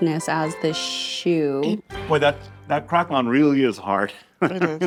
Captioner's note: laughs